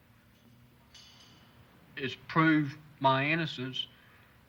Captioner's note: none